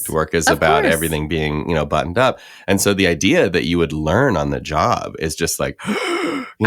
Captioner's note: gasps